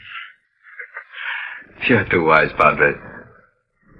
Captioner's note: laughs